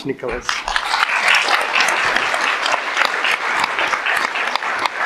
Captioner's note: audience applauds